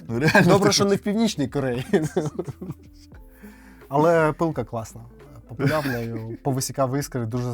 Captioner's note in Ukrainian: сміх